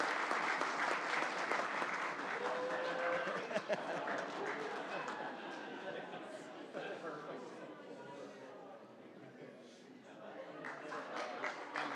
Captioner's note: applause